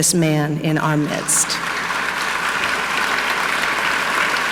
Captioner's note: audience clapping